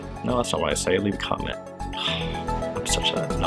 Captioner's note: sighs